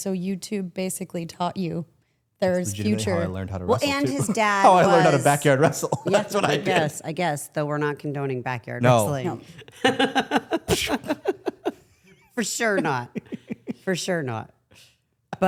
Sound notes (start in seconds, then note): 9.0 Stephanie laughing